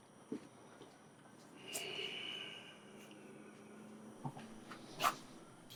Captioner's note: outside night noises